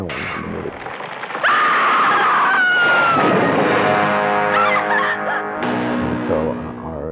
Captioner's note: screams